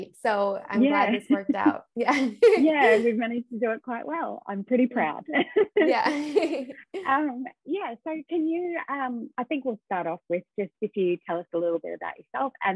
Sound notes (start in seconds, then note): 2.0 chuckles; 5.4 laughs